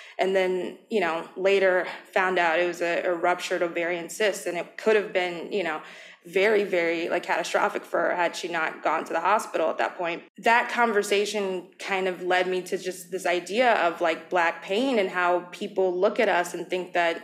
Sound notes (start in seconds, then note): none